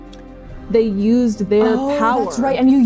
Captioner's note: gasping